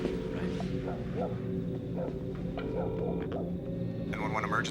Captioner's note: dog barking